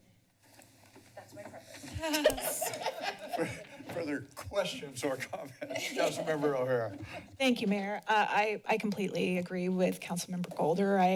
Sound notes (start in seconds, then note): 1.8 laughter